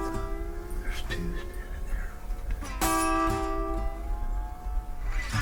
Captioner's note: hunters whispering